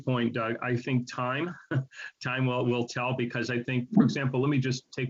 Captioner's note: chuckles